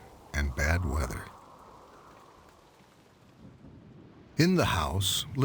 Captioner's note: wind blowing; rain pouring